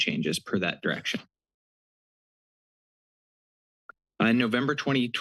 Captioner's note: pause